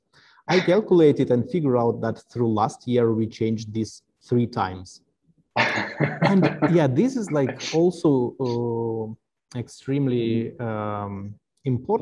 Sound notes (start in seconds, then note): 5.6 laughing